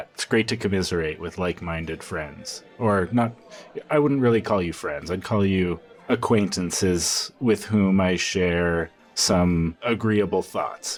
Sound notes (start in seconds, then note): none